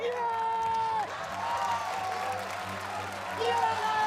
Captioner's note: cheers, applause